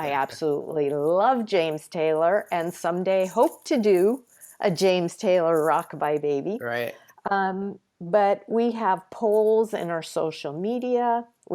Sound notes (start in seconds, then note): none